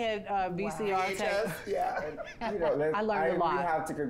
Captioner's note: laughs